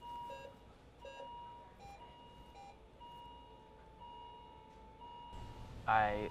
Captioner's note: machines beeping